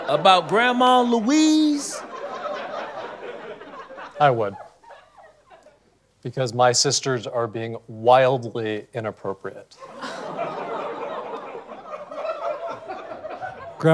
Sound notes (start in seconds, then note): 1.6 audience laughter; 9.8 audience laughter